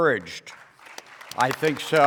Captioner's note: applause